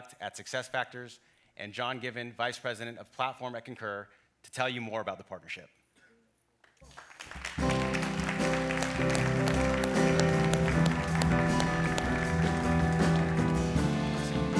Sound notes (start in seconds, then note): 6.9 audience applauds; 7.6 light jazz music